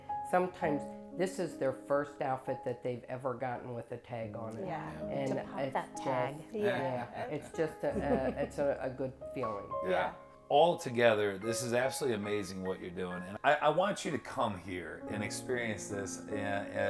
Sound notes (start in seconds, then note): 7.8 group laughing